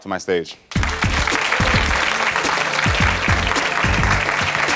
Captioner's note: audience applauds